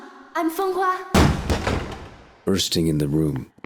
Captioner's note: door opens